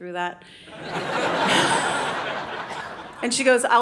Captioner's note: audience laughing